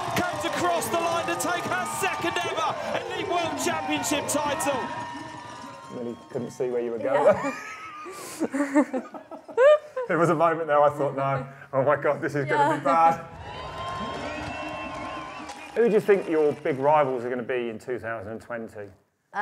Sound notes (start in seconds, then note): 7.1 both laugh; 12.9 crowd cheering